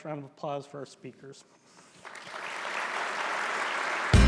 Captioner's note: applause